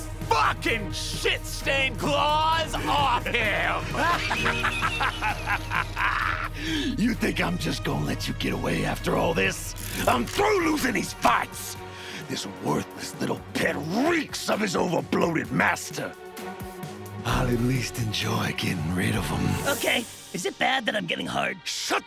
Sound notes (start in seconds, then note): 2.7 Striker laughs